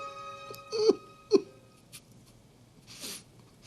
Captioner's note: Valentin snickering